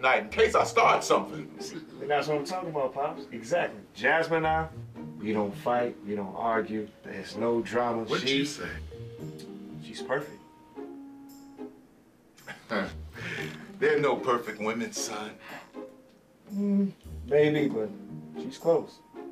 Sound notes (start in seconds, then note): 12.4 chuckles